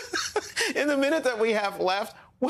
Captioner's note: laughter